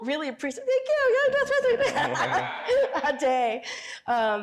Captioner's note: all laughing; cheers